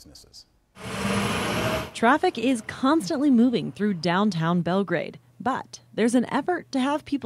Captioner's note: nats car engine